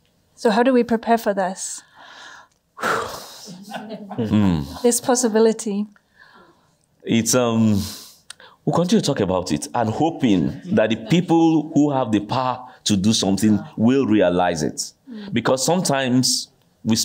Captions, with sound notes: So how do we prepare for this? [SIGHS] [CHUCKLES] This possibility. We're going to talk about it. I'm hoping that the people who have the power to do something will realize it, because sometimes we